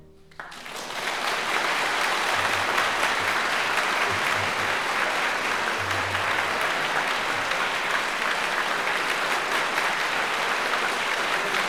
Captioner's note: applause